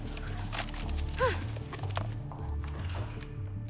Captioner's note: sighs